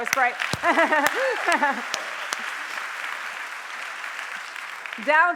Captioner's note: applause